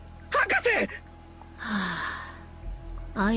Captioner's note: sigh